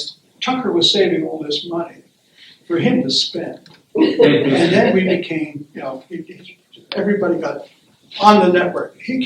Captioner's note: laughter